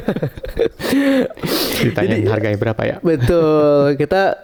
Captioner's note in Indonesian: tertawa; terkesiap